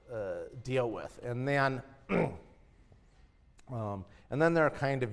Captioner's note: cough